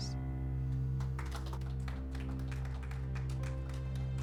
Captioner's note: applauding